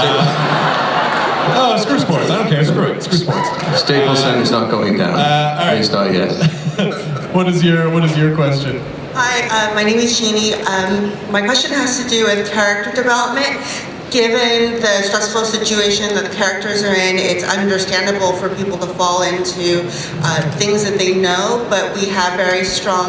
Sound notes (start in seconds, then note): 0.0 laughter; 9.0 voiceover